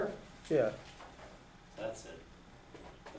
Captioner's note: voiceover